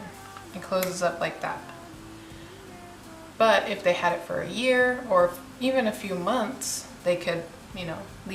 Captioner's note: snap